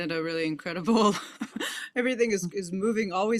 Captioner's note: laughs